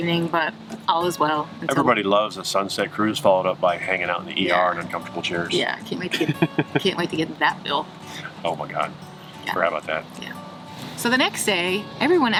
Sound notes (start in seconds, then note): 2.3 laughs